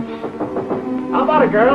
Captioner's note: door knocking